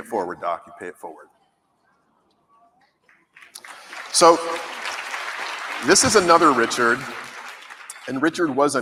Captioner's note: applause